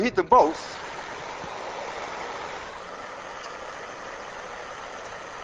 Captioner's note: flame whooshing